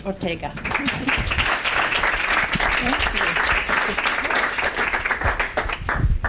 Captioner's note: applause